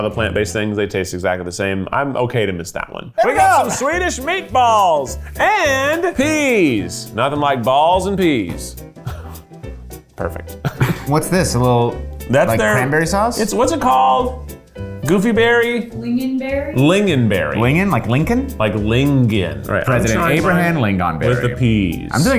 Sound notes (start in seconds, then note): 9.0 laughs